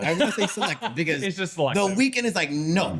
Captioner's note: laughing